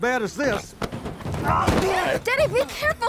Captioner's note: yells